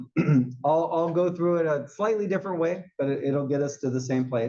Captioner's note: cough